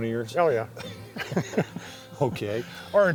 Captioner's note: laughs